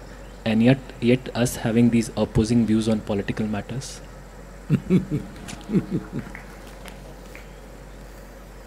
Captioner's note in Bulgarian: Садгуру се смее